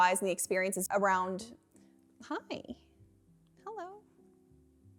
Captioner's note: none